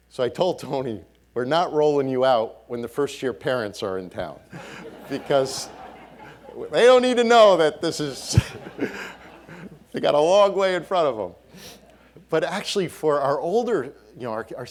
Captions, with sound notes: So I told Tony, we're not rolling you out when the first year parents are in town. (audience laughing) Because they don't need to know that this is, they got a long way in front of them. But, actually, for our older, you know,